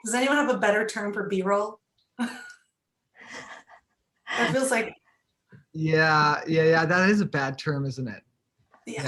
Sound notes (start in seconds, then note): 3.2 laughing